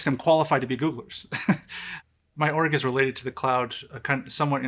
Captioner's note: laughs